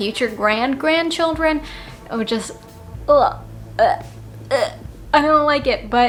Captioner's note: gagging noises